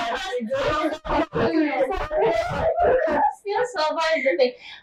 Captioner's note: laughter, Crosstalk